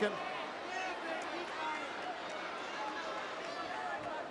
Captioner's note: crowd murmuring